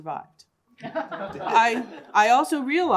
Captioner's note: laughter